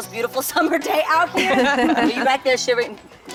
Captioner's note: laughs